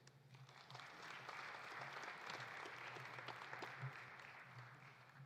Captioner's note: audience applauding